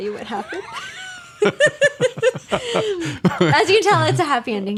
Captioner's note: both laughs